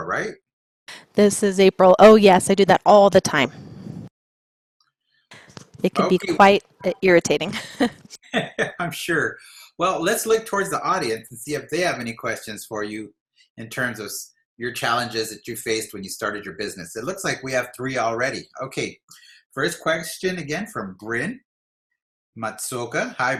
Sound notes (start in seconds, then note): 7.4 chuckles